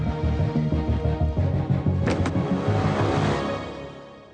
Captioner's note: light dramatic music; lock clanking